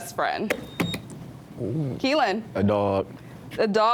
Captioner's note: buzzer beeps